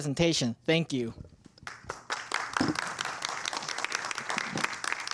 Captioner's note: applause